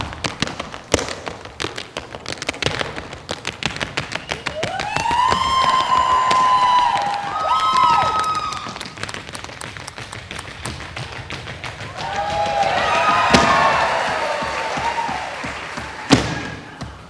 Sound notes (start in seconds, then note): 4.4 audience applauding and cheering; 8.6 tapping; 11.8 audience applauding and cheering